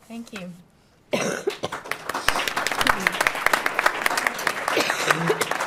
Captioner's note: audience applauds